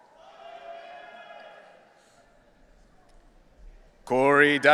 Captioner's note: audience cheering